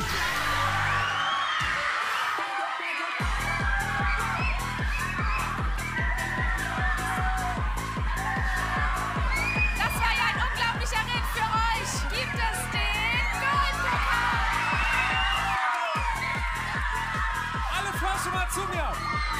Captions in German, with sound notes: (Lauter Jubel) Das war ein unglaublicher Ritt für euch. Dafür gibt es den Goldpokal! (Jubel) Alle Frösche mal zu mir.